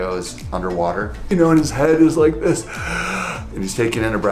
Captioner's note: inhales deeply